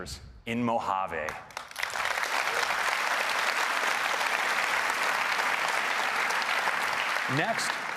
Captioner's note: applause